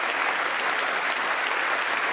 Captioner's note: applause